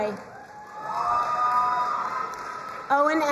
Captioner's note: crowd cheering and applauding